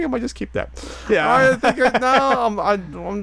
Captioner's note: laughing